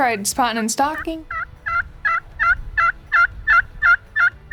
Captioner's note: turkey calling